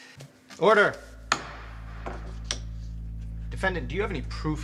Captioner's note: gavel bangs